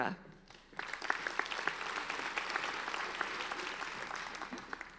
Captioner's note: applauding